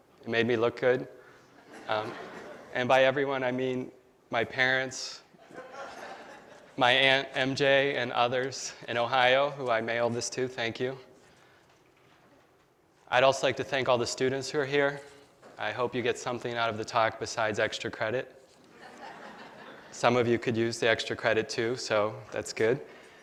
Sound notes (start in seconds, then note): 18.7 laughter